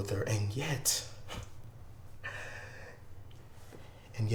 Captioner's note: scoffs